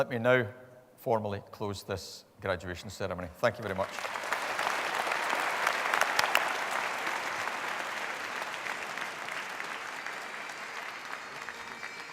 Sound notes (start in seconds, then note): 5.0 applause